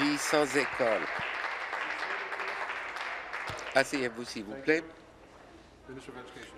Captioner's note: applause